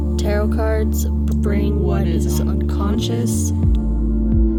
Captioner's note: double voices